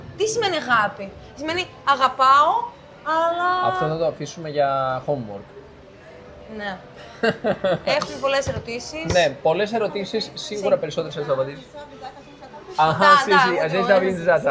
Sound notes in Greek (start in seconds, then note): 7.0 γέλια